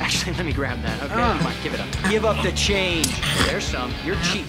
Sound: groans

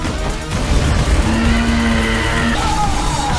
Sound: fireball roars; Azalla shrieking; Max yells

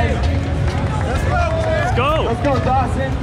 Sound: clapping

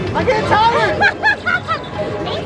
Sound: laughing

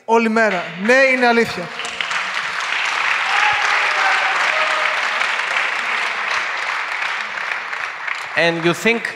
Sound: applause

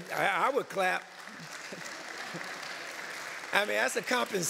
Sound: applause

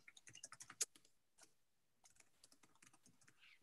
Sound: typing

